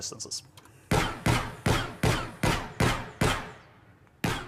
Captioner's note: gunshots